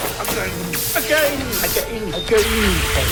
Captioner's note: currents buzzing; currents buzzing